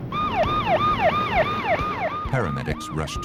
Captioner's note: sirens